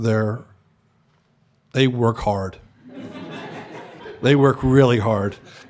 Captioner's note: laughter